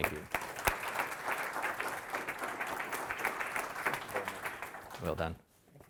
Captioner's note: audience applauding